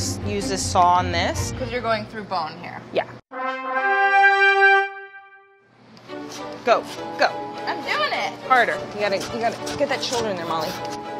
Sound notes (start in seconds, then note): 3.3 horns blaring; 5.8 upbeat classical music